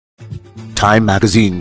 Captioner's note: radio Announcer